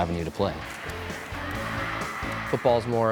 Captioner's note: cheering